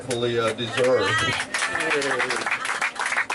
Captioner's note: clapping!